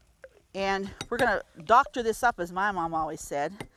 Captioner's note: banging spoon; spoon banging